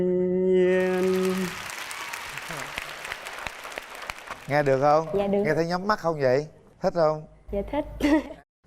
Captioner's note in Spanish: Aplaudir